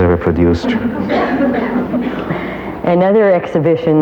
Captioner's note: audience laughs